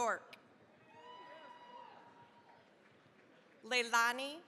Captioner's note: cheering, applause